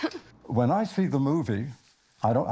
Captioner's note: Maria laughs